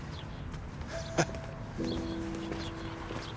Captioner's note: chuckles